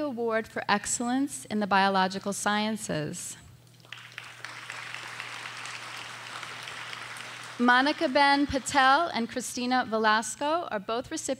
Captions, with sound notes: Award for Excellence in the Biological Sciences. (audience applauding) Monica Ben Patel and Cristina Velasco are both